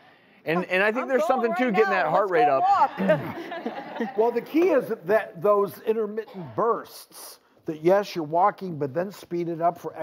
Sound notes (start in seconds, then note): 2.8 audience laughs